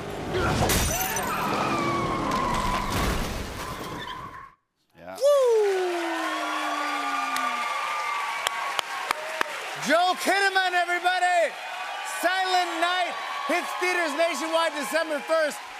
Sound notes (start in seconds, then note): 1.0 men scream; 1.8 tires screech; 6.3 cheers and applause